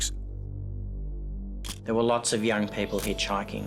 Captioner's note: camera shutter click